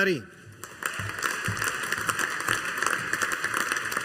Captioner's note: audience applauding